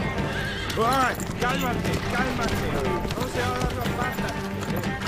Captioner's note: horse whinnying; speaking in Spanish